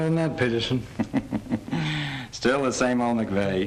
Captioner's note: King laughs